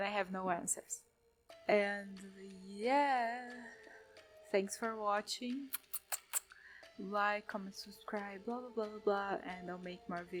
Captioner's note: kiss noises